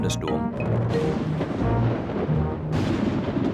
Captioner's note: thunder rumbles